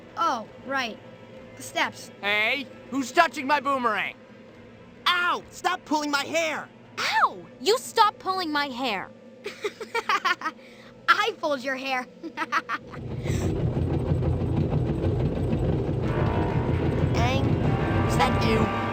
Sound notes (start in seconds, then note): 9.4 Aang laughs; 12.0 sounds of a machine; 12.2 laughs